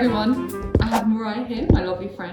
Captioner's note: air whooshes